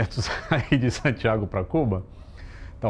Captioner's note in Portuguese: risos